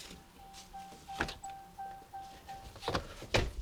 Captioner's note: truck beeping; doors bang